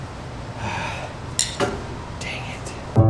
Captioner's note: sighs